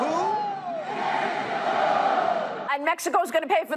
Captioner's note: crowd